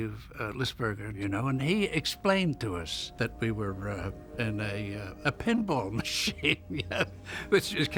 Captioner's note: laughing